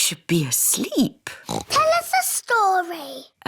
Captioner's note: oinks